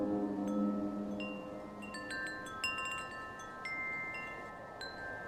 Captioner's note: suspenseful music; wind chime playing